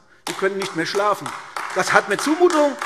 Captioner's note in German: Beifall AfD